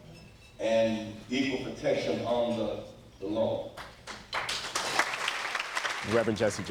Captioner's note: applause